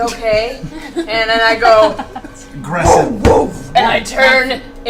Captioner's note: grunts